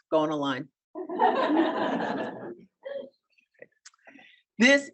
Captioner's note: audience laughing